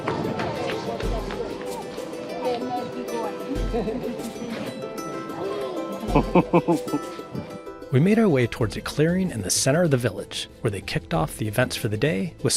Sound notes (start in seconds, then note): 0.0 upbeat music; 6.0 chuckling